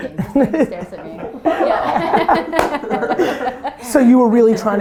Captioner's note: group laughter